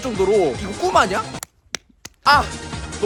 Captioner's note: slap!